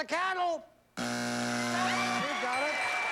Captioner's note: buzzer